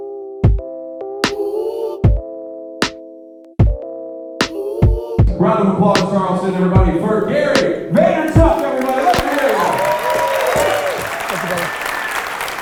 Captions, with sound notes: - [Voiceover] Round of applause Charleston everybody for Gary Vaynerchuk everybody, let's hear ya. (clapping and cheering)